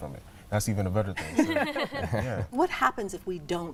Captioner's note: ladies laughing